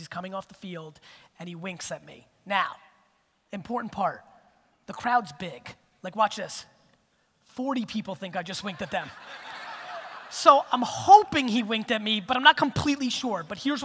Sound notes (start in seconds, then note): 8.7 audience laughter